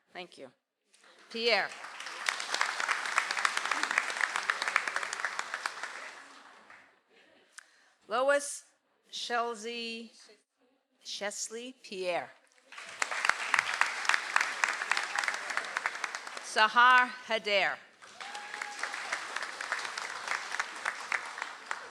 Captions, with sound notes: (audience applauds) - Lois Chelsea Chesley Pierre. (audience applauds) - Sahar Haddair. (audience applauds)